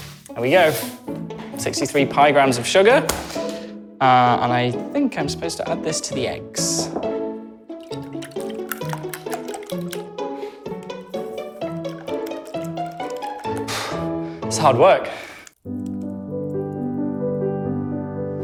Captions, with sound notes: There we go! 63 Pi grams of sugar, and I think I'm supposed to add this to the eggs. [upbeat music] [huffs] It's hard work! [slow classical music]